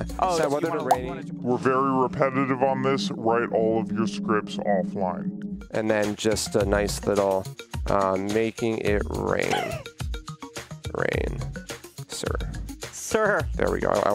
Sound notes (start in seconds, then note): 1.3 in distorted voice; 9.4 laughs